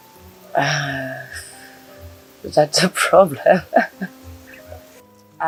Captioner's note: laughs